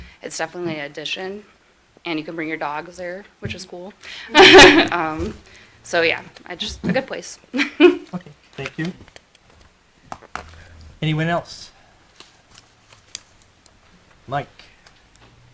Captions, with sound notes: It's definitely an addition, and you can bring your dogs there, which is cool. (laughing) So, yeah, it's a good place. - Okay, thank you. Anyone else, Mike?